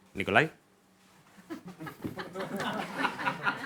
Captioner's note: laughter